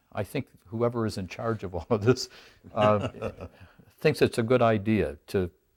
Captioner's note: both laugh